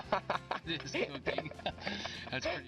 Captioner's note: friend laughs